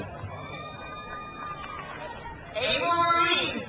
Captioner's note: crowd cheers